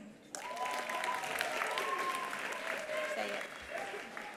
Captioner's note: attendees applauding; attendees cheering